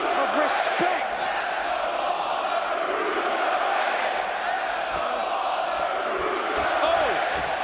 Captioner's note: crowd cheering